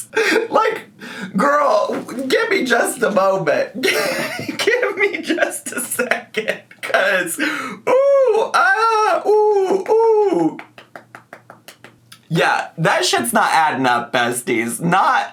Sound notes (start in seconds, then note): 3.7 laughs